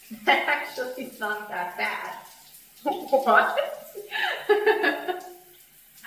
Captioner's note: laughs